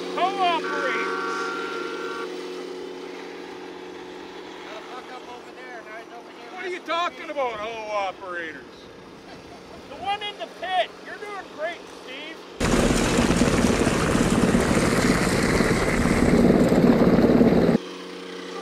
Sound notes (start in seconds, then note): 12.2 engine roars; 12.7 water splashes